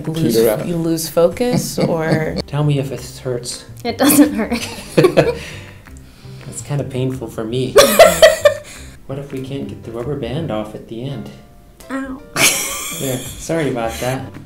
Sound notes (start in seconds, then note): 1.5 dad chuckles; 4.9 both laugh; 7.8 laughs; 12.4 laughs